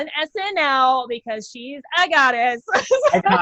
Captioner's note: laughs